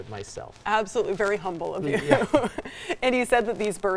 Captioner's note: laughs lightly